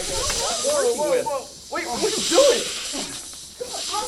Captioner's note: snake hisses; snake hisses more